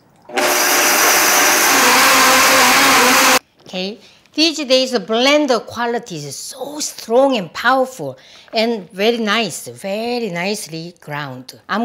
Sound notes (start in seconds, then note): 0.3 grinding noise